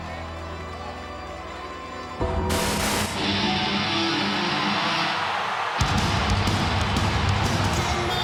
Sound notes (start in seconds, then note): 2.5 static hisses; 4.3 intense rock theme music